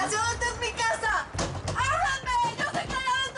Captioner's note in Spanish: Golpes